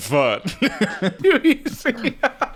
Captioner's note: laughing